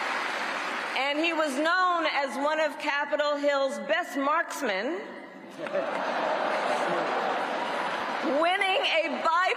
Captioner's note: cheers and applause